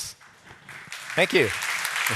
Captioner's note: applause